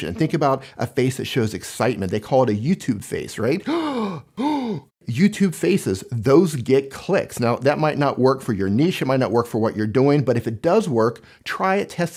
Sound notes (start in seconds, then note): 3.6 gasping